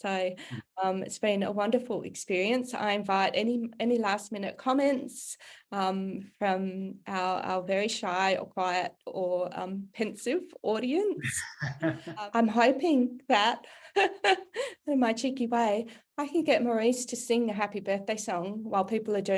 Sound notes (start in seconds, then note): 11.2 laugh